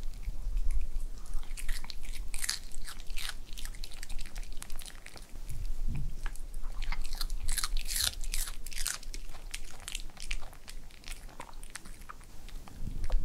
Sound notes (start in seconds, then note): 1.1 crunch crunch